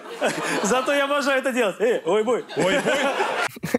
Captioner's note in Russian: сквозь смех; смеется